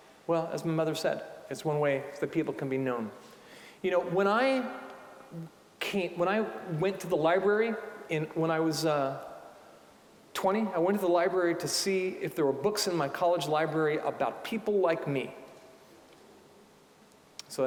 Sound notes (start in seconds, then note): none